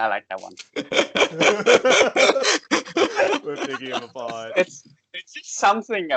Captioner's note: laughs because anime is trash and so are we